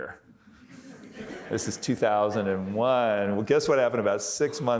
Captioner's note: audience laughing